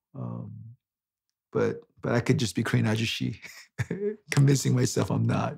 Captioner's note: laughs